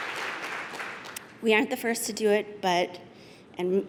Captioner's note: applause